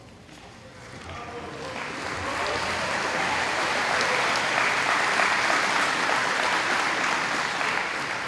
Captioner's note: applause